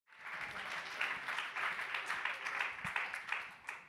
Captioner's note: attendees applaud